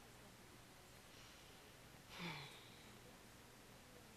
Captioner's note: sighs